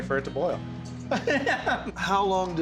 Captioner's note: laughing